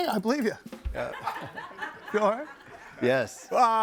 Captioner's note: audience laughing